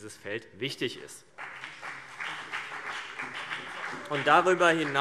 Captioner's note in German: Beifall BÜNDNIS 90/DIE GRÜNEN und vereinzelt CDU